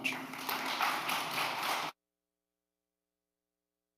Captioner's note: applause